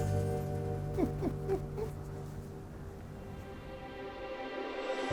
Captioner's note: soft music; chuckles; soft music